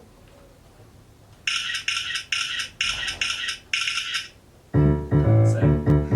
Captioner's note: photograph shutter sounds